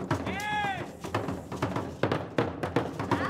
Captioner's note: shouting; drums beating and beads rattling